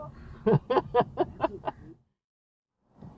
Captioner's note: me chuckling